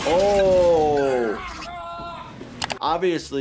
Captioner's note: none